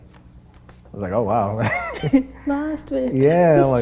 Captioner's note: laughs